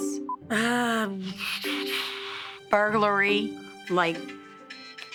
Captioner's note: exhales; phone ringing